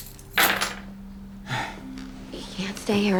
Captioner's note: sighs